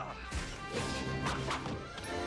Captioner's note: grunts